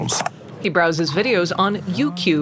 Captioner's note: growling